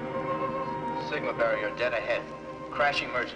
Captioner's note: loudspeaker